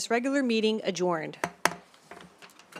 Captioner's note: gavel hitting dais